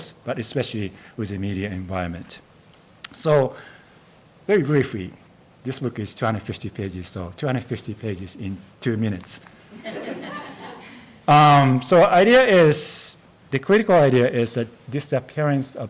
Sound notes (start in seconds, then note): 9.7 audience laughs